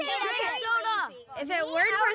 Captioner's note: none